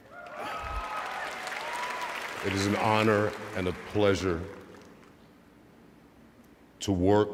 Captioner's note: cheers and applause